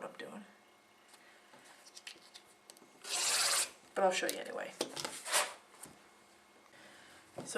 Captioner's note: sound of cutting